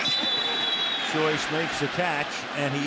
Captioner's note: whistles